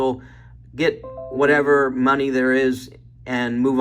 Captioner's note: notification dinging